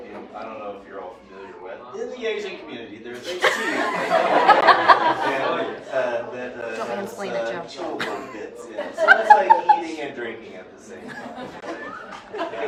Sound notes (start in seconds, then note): 3.2 laughter